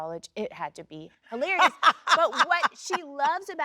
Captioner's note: Sheryl Lee laughs